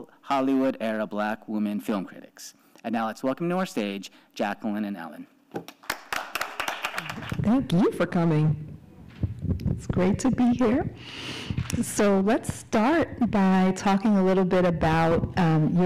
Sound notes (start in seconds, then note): 5.7 hosts and audience applaud